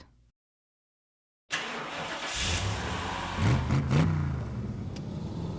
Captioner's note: car engine comes to life, revs